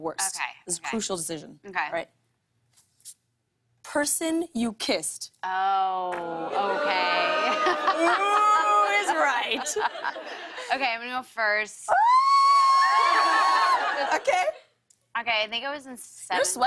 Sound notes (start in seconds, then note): 6.4 audience oohs